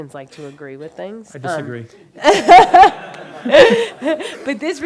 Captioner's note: laughs